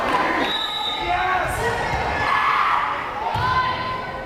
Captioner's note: whistle blares